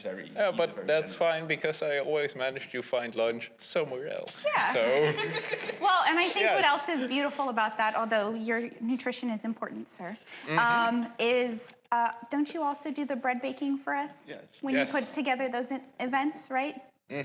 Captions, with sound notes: but that's fine because I always manage to find lunch somewhere else. Yeah, (laughter) Well, and I think what's beautiful about that, besides your nutrition being important, personally, is don't you also handle the bread baking for us during those events, right?